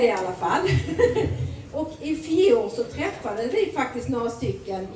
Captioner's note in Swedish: skratt